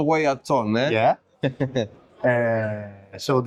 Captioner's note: laughs